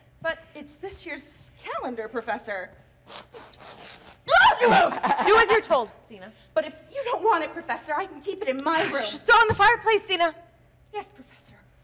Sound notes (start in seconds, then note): 4.2 Zina loudly shrieks